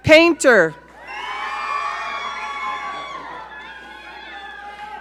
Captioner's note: audience cheering